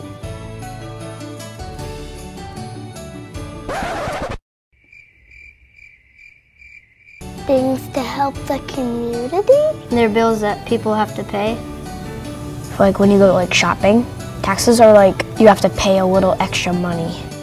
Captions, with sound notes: [Record scratches and music stops abruptly] [Crickets] Things to help the community? They're bills that people have to pay. Like when you go to like shopping, taxes are like, you have to pay a little extra money.